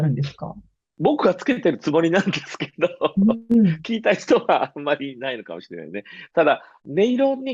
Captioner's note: laughs